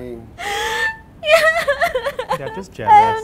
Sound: sobbing

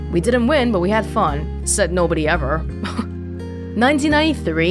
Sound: chuckles

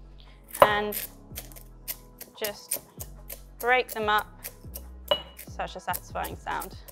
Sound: lemon bits crunching

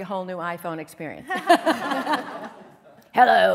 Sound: laughter

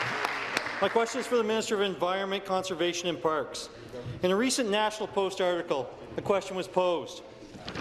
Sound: applause

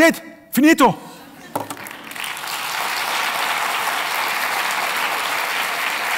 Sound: applause

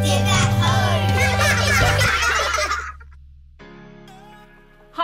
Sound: kids laughing

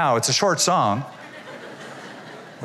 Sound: laughter

